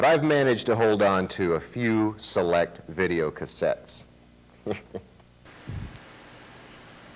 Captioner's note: laughter